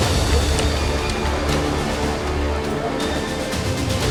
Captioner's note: keys clacking